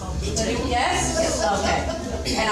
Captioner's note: laughing